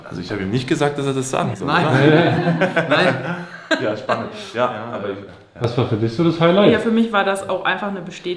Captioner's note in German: gelächter